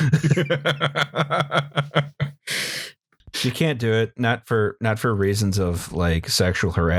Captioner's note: laughter